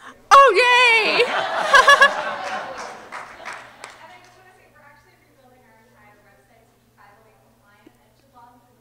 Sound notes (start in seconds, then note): 1.0 laughter; 2.9 audience clapping